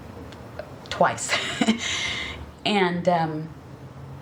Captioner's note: laughs